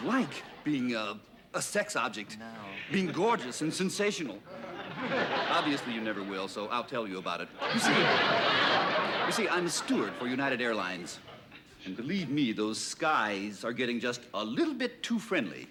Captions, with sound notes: -being a sex object. -No. Being gorgeous and sensational. Obviously you never will, so I'll tell you about it. [ Laughter ] You see, I'm a steward for United Airlines. And believe me, those skies are getting just a little bit too friendly.